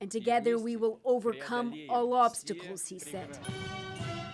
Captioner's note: speaking alternate language